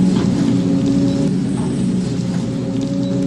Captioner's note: digging noises